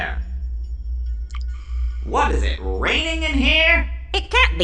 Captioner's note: water dripping